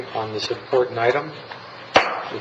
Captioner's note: gavel striking